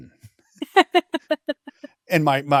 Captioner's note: laughing